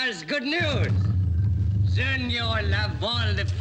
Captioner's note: bear growls